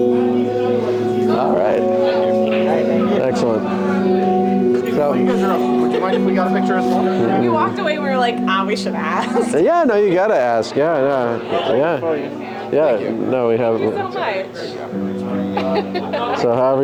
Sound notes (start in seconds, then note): 9.0 laughs